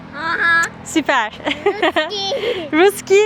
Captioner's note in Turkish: kahkaha